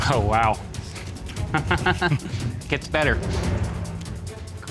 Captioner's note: laughs